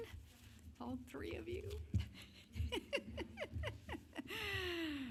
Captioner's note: chuckles